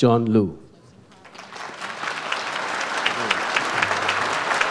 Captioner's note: audience applauds